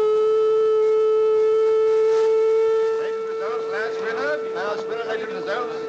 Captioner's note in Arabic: الناس يتحادثون